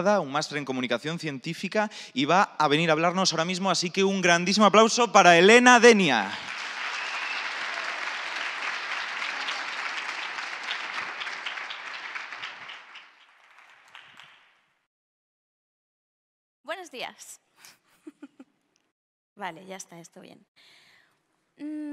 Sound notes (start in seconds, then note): 6.1 clapping